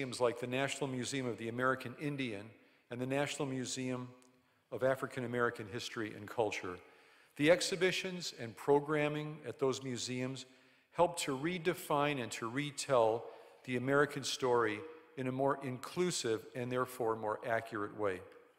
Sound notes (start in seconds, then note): none